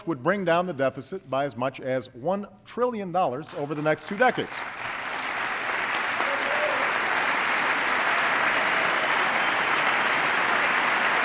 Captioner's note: applause